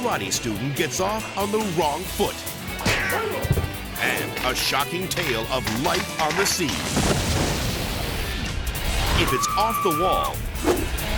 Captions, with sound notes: A karate student gets off on the wrong foot. (foot thuds) And a shocking tale of light on the sea. (boat explodes) If it's off the wall and it's on tape,